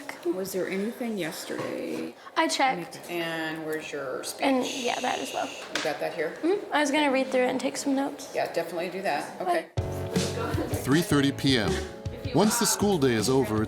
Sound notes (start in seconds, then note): 9.8 upbeat music; 9.9 chattering